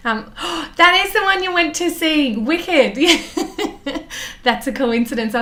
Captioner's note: gasps; laughs